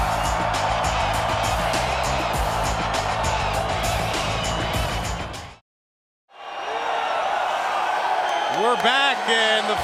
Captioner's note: crowd cheering